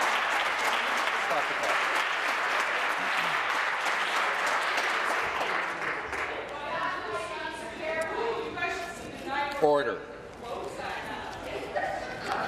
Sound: applause

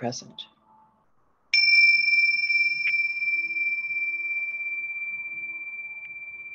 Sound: bell ringing

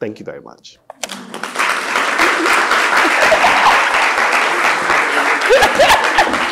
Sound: audience applauding; audience laughing

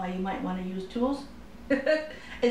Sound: laughter

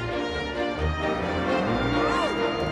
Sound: adventure music; cows mooing

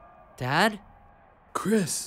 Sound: crowd cheers faintly

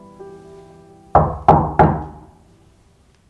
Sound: door nocking

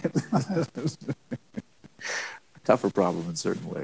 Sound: laughs

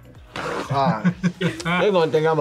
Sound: laughs

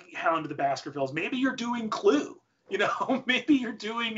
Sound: laughs

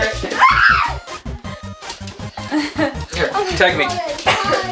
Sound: kids squealing

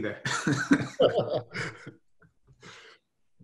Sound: laughs

